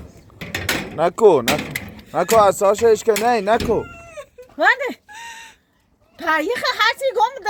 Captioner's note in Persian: خنده